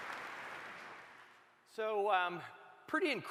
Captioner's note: applause